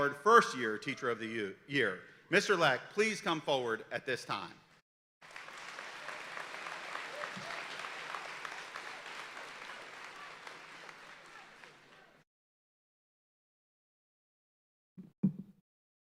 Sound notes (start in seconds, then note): 5.2 audience applauding